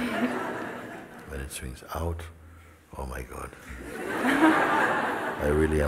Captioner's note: laughter; laughter